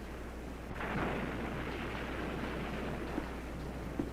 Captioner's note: waves crashing